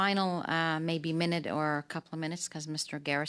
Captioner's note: speaking French